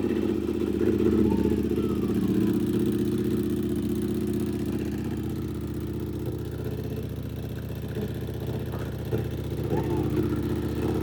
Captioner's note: engine rumbling